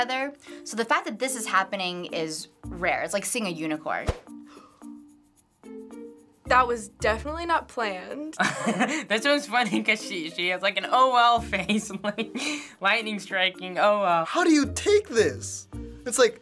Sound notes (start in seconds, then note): 4.5 gasps quietly; 8.4 chuckles